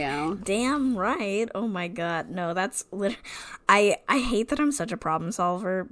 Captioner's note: laughs